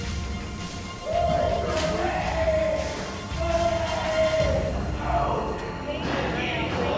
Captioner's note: inmate yelling